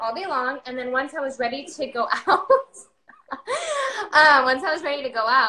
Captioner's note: laughs